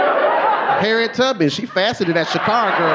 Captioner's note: audience laughing